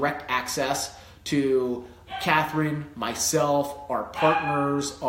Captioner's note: dog barking